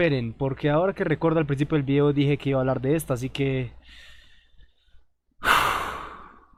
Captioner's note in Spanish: suspiro